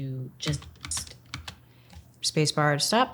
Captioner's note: keyboard clicking